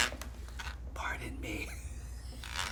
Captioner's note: food mill cranking; whispers